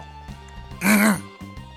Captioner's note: ahem